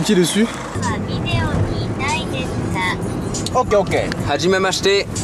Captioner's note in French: Voix de synthèse du traducteur